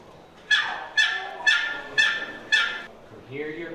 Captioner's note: box call yelps